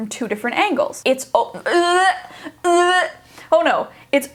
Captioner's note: gags